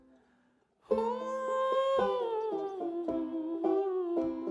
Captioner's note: vocalizing